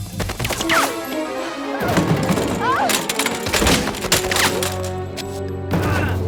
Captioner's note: suspenseful music; guns firing